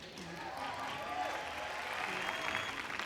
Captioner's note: clapping